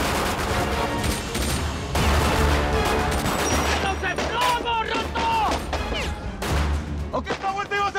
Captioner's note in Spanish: Disparos